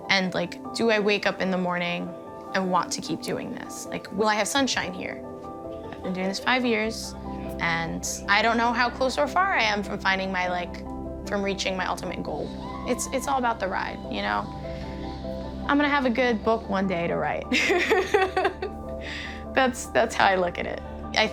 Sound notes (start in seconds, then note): 17.6 laughs